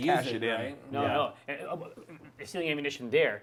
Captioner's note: chattering